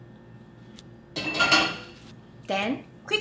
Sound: pot banging

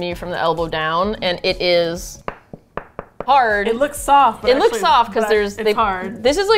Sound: knock knock knock knock

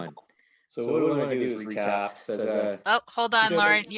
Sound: speaking faintly off mic

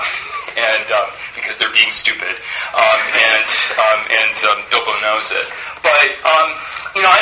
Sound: laughs

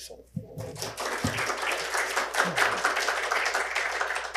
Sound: audience applauds

